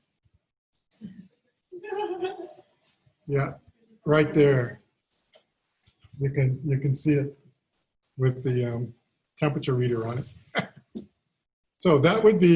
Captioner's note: laughter